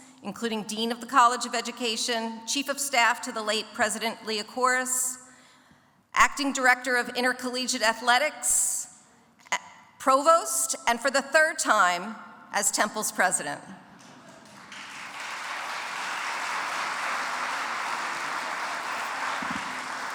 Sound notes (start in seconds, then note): 14.1 audience applauds